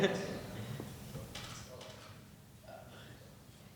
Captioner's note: laughing